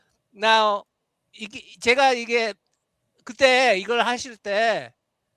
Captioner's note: non-english speech